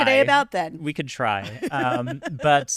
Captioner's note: laughing